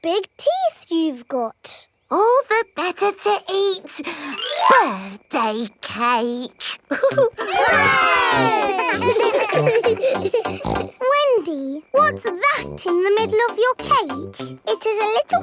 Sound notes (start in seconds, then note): 6.8 laughing; 6.8 chuckles; 11.3 snorts